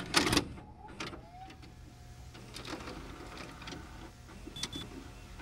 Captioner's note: cassette clacks; VHS machine whines